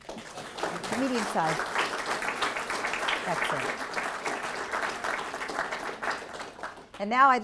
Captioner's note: applause